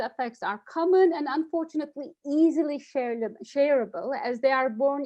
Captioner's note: stutters